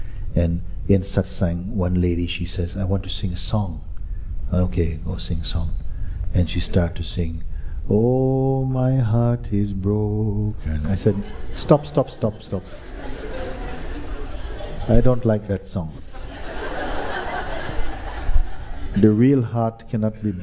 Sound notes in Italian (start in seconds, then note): 17.8 Risate